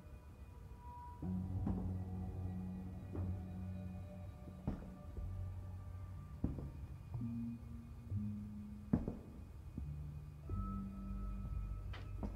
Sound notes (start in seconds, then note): 1.1 sinister music; 4.6 footsteps